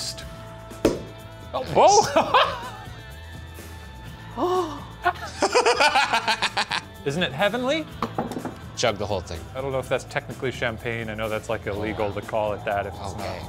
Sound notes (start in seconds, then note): 0.8 bottle pops; 1.7 laughs; 4.2 gasps; 5.0 laughs